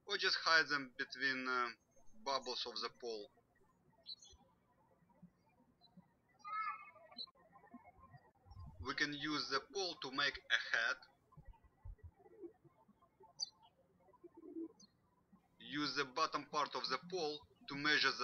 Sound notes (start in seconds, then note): 4.0 birds chirping; 13.5 birds chirping